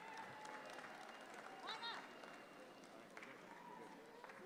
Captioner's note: audience claps